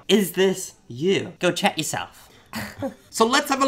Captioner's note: laughing